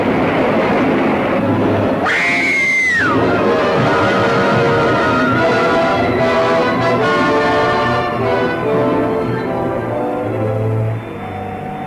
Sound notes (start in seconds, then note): 2.0 woman screaming; 3.0 car clatters; 11.0 dramatic music; 11.0 water splashing